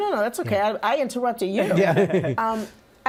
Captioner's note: laughter